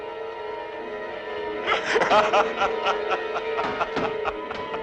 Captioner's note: boards thumping